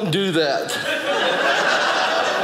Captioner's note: audience laughing